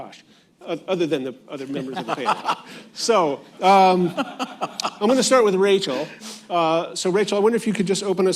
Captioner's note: laughter